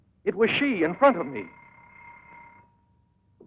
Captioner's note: phone ringing